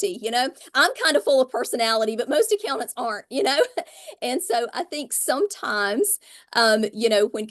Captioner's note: light laugh